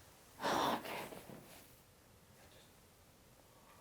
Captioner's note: complete silence